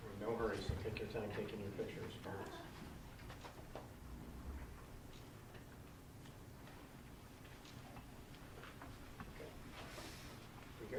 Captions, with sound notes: >>No hurries. Take your time taking the pictures. (Speaking away from mic)